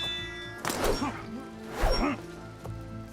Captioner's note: grunting